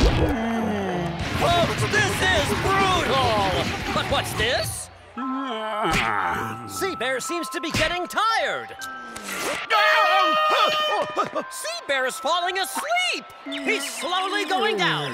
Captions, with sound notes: [groaning] Folks, this is brutal! But what's this? [yawning] See bear seems to be getting tired. [air horn blaring] Sea bear is falling asleep. He's slowly going down.